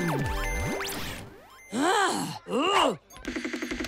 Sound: games beeping; excited grunting; upbeat music playing

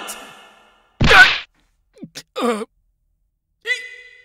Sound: grunts

